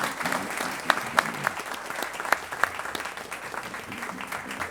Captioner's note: applause